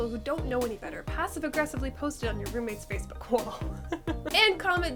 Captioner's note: laughs